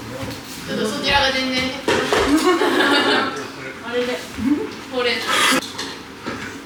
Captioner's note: laughs